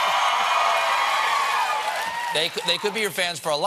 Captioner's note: cheers and applause